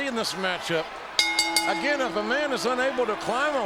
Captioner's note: bell rings